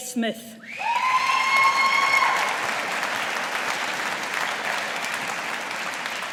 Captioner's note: audience applauding